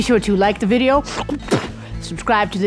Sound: sniff, spit

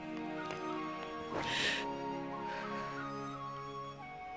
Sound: gasping

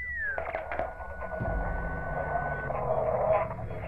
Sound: radio feedback

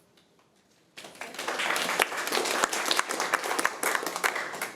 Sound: applause

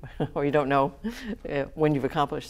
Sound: laughs

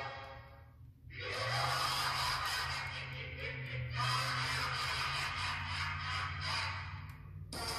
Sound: Omega Flowey laughs magically

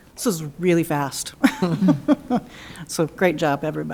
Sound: laughing

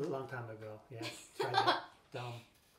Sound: laughs

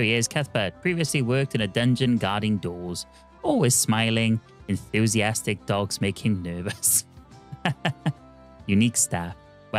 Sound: laughs

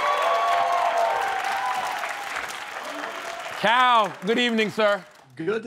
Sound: cheering and applause

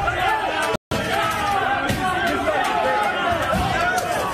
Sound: screaming

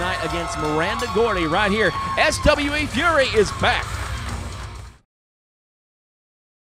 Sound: fans cheering loudly

